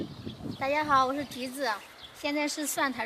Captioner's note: Mandarin